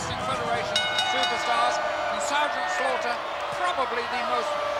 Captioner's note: bell ringing